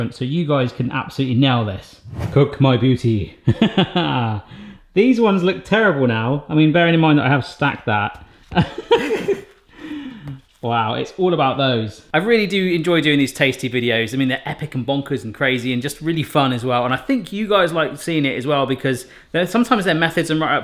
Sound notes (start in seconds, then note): 2.0 air whooshing; 3.5 laughs; 8.6 laughs